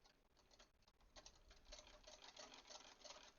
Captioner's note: machine clacking